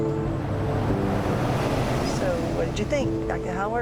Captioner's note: engine rumbling